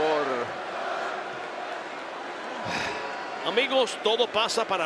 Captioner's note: applause